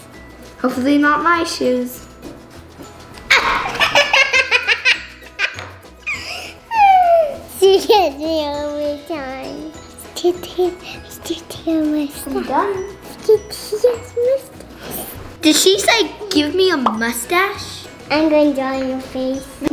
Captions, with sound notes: - Hopefully not my shoes. (upbeat quirky music) (laughter) - She catches me all of the time. Let's do Taylor a mustache. Do Taylor's mustache. - Did she say give me a mustache? - I'm gonna draw on your face.